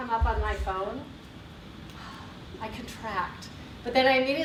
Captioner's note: exhales